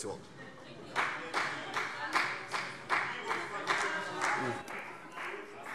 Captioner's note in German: Vereinzelter Beifall CDU